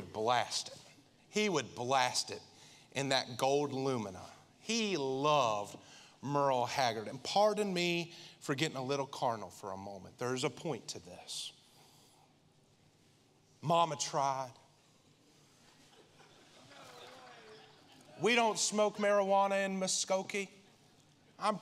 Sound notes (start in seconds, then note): 15.7 congregation laughing